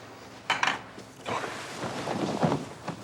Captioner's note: ashtray clacking; blankets rustling